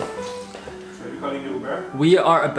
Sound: footsteps plodding

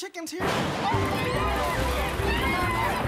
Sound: thunder crashes; all screaming

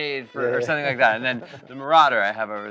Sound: chuckles

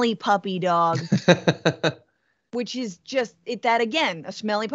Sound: laugh

